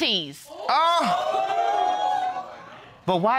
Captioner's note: audience exclaims